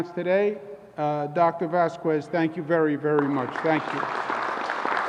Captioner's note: applause